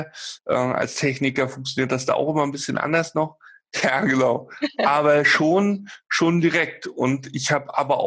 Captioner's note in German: lacht